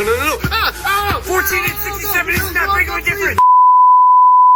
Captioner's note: yelling & screaming